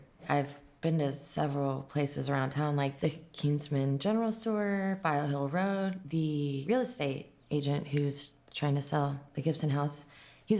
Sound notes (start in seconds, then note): none